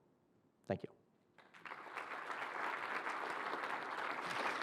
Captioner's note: applause